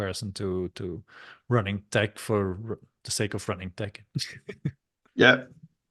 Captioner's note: chuckles